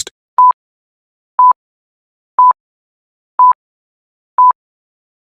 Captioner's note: countdown Beeps